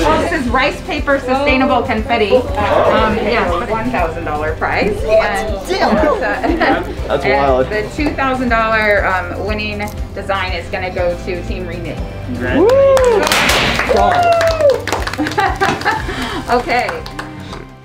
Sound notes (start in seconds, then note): 12.5 cheers and applause; 13.3 pops; 15.1 chuckles